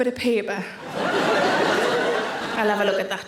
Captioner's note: audience laughing